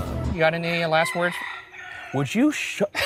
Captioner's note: rooster crows